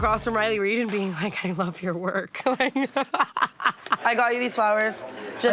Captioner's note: laughs